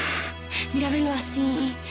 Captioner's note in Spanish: sollozos